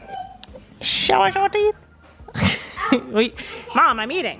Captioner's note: laughs